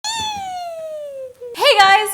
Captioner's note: squealing